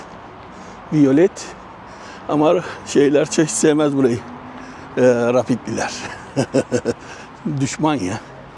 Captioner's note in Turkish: kahkaha